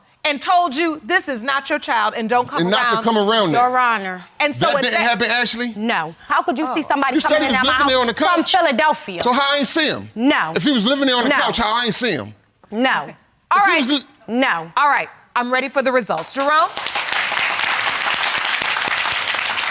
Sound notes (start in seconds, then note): 16.2 audience applauding